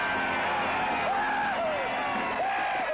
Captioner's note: whooping; band stops playing